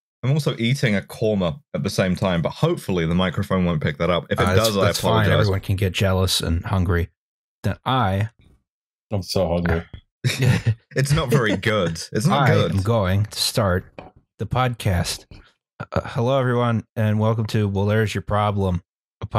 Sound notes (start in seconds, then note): 10.2 laughter